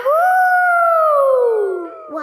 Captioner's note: howling